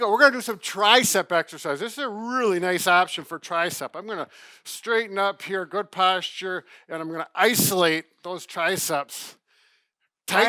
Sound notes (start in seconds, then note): none